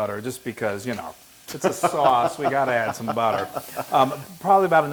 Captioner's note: laugh